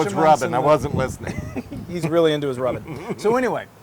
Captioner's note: laugh